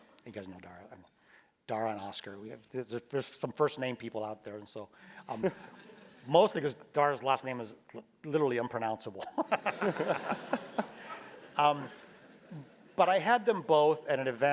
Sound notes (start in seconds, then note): 5.3 laugh; 9.3 laugh